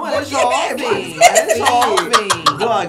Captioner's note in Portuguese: Blogueirinha ri